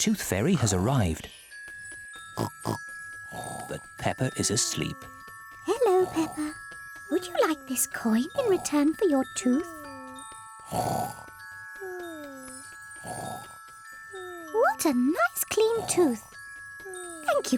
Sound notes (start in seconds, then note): 2.4 oinks; 10.8 snoring